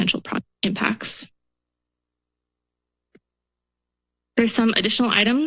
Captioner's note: silence